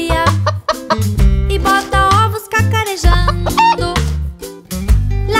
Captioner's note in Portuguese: som de galinhazinha; som de galinha